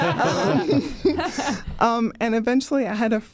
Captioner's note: everyone laughing